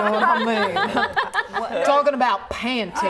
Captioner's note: laughing